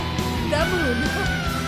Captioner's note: laughing